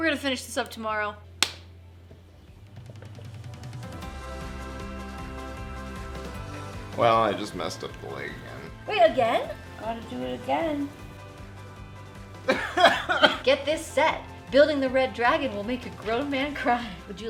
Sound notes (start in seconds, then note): 1.4 crisp high five; 12.6 fake crying